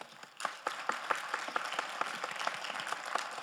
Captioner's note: all applauding